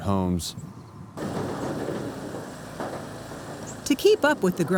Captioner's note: wood dropping on conveyor belt